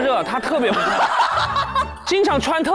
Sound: hahahaha

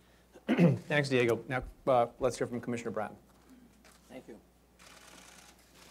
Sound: clears throat

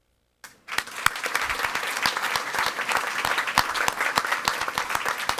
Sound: audience applauding

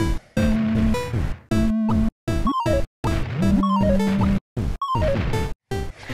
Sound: space invaders sounds

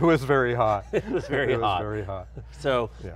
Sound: laughs

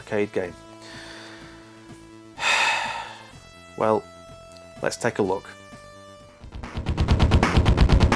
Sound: sigh

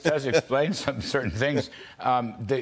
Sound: laughter

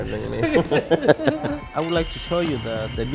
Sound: laughing

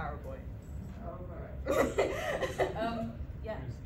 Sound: laughter

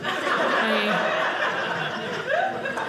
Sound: audience laughing

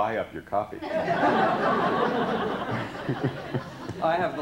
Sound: laughter

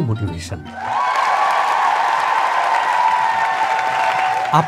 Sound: applause sound

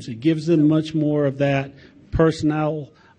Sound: none

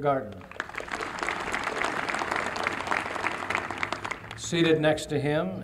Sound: applause

